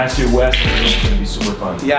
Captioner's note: cards shuffling